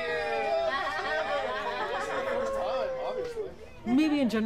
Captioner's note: people cheering